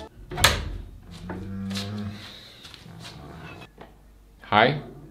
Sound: door opens; Granny groans

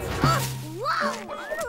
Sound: June crashes

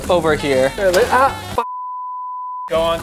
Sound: loud beep

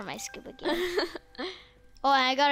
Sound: laughs

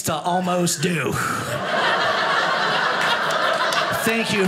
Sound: audience laughing

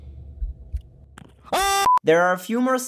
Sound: hyped screaming

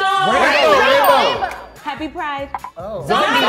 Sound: bell dings

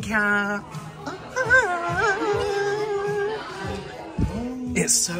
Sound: excited, Going To Spend Too Much Money, Noises

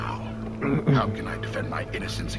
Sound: clears throat

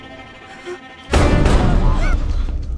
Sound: banging

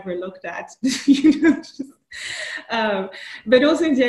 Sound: laughs

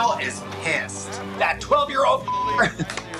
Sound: beep

